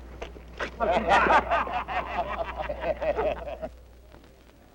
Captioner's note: men laughing